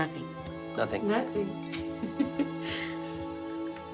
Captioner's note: laughs